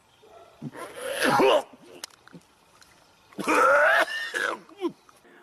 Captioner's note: cough and choking